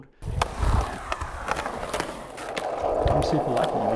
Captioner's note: skateboard rolling